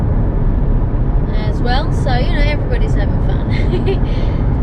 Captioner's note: giggles